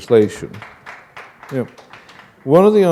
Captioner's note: applause